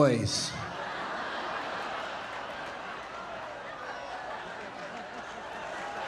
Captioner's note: audience laughing, cheering and applauding